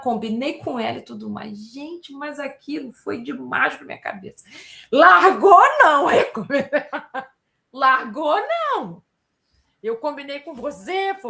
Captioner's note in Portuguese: risadas